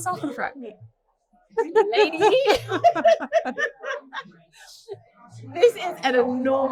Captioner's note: laughter